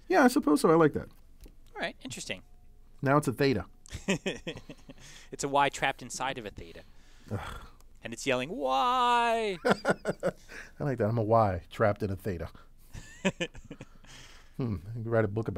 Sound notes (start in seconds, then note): 3.9 laugh; 9.4 laugh